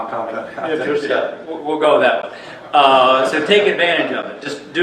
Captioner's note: laughs